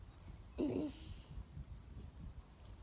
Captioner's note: clears throat